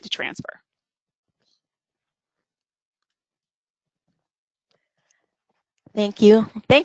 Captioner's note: silence